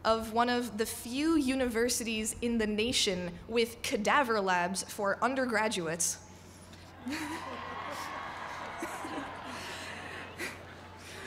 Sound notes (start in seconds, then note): 7.0 cheering